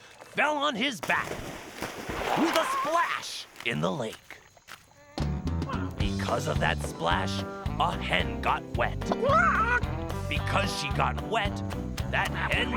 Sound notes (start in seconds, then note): 8.6 clucks weakly